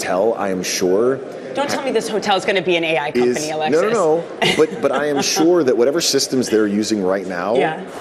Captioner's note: laughter